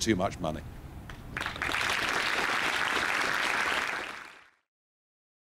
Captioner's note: audience applause